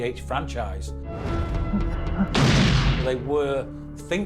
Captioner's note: gun blasts